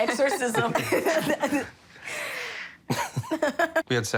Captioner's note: laughter